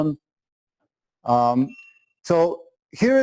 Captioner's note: pause